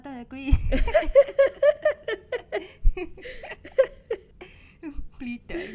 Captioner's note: laughter